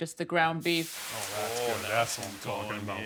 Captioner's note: beef sizzling